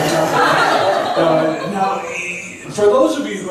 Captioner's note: laughs